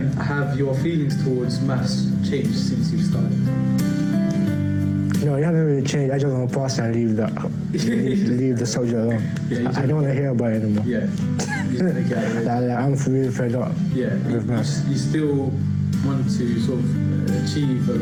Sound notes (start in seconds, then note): 7.2 laughs